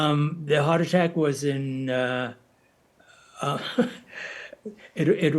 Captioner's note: chuckles